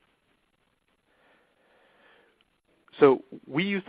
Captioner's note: silence